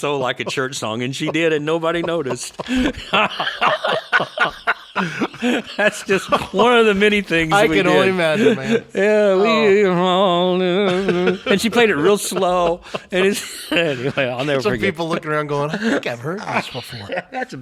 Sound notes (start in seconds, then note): 3.0 laughing; 9.5 humming